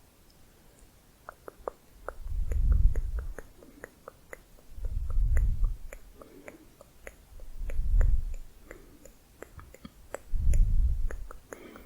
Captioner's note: tongue clicking